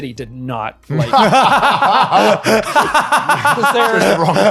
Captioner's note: laughing